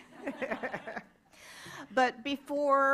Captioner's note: laughter